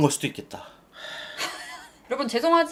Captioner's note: deep sigh